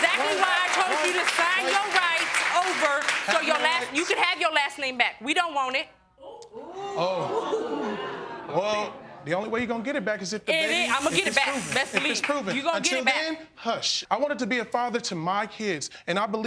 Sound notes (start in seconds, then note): 6.7 audience gasping